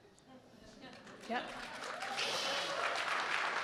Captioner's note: audience clapping